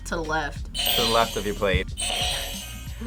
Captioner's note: buzzer rings